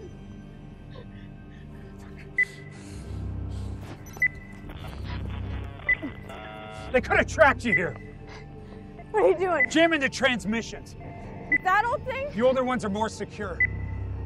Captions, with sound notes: (machine beeping) They could have tracked you here. - What are you doing? - Jamming the transmissions. - With that old thing? - The older ones are more secure.